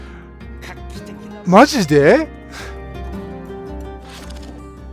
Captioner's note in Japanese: 笑い